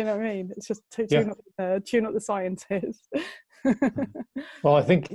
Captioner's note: lacht